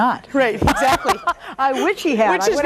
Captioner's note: laughs